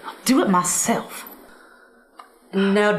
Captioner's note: silence